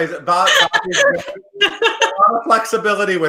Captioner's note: Katrina laughs